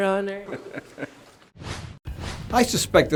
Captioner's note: man laughs